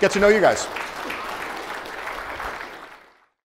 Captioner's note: crowd clapping